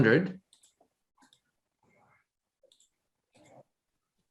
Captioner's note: mouse clicking